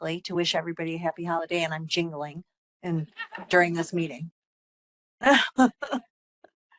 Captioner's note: laughing